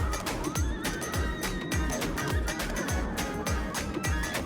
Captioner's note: screaming